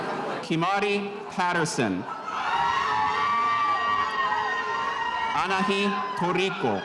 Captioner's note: spectators cheering